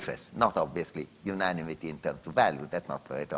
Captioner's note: none